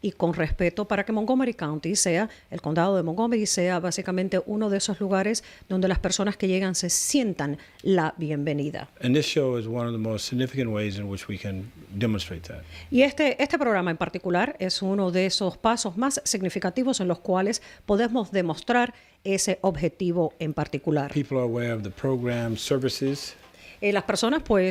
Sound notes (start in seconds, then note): 8.6 speaking spanish